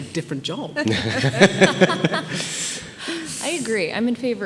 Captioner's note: group laughing